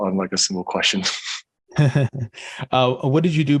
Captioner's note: both laughing